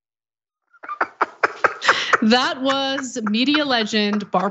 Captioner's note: laugh